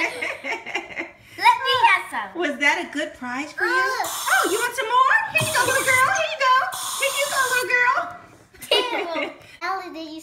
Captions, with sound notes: - Let me have some. - [Voiceover] Was that a good prize for you. Oh, you want some more? Here you go little girl, here you go! Here you go little girl! (playful laughs)